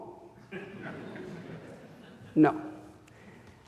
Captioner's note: audience laughing